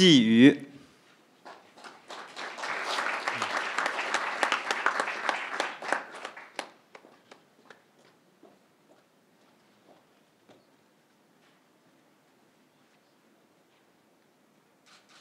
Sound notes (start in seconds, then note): 1.4 crowd applauding